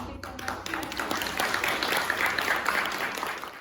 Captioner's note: applause